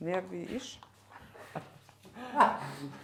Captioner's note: laughter